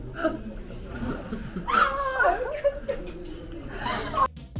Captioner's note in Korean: 음소거 웃음